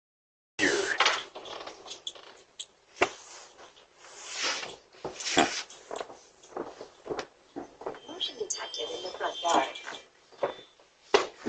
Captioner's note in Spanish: Charla indistinta